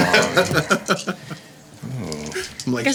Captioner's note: laughing